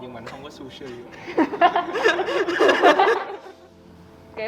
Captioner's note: laughs